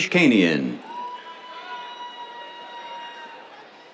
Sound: cheers

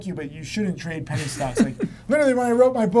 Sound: laughs

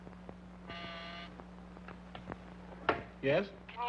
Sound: intercom buzzing

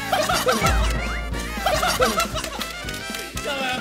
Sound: burst of laughter

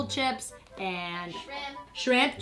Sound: voiceover

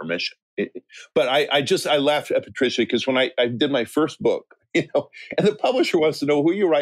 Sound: chuckle

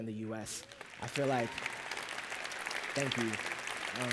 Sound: applause

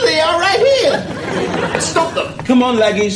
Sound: laughter

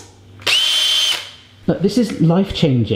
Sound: whirring

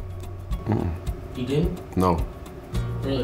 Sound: voiceover

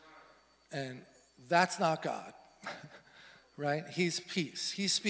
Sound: laughs

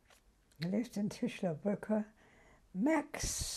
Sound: german

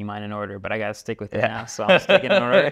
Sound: laughs

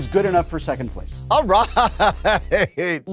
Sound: laughing

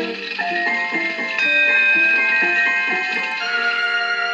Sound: ding

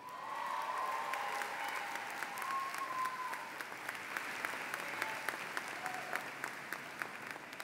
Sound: applause

